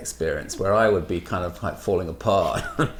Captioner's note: laughs